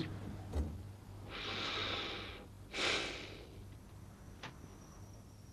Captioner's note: sighs